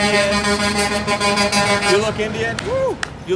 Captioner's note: car honking